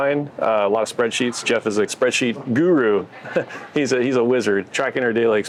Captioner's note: chuckles